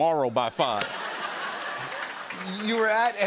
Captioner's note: laughter